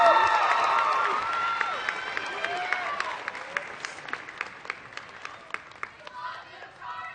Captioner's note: applause